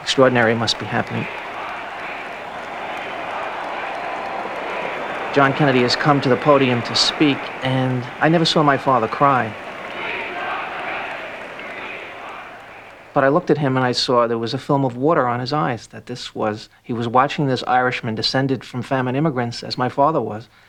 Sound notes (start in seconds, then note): 10.0 crowd Chanting